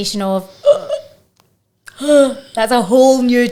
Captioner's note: gasping dramatically